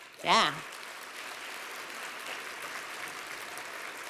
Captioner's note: applause